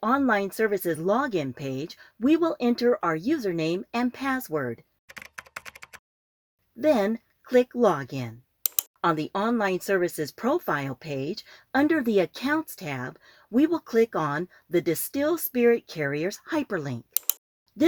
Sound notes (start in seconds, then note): 5.1 SFX typing